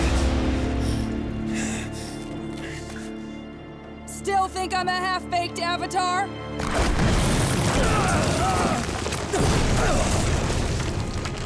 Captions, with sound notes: Still think I'm a half-baked Avatar? [grunting]